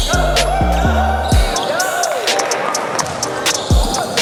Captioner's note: sneakers squeaking on floor; cheering